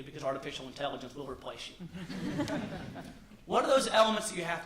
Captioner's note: laughter